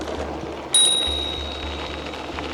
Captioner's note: bicycle bell dings